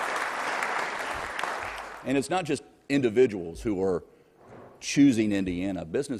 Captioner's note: applause